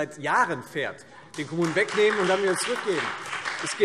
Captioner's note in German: Beifall Freie Demokraten und SPD